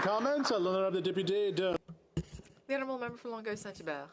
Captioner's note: some Applause